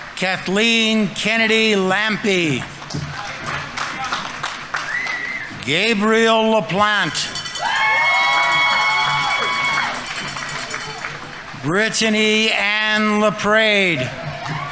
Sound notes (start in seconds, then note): 2.4 audience applauding; 4.6 audience members cheering; 7.4 audience members cheering; 7.5 audience applauding